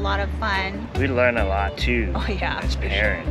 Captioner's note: laughs